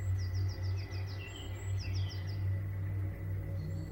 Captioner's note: birds chirping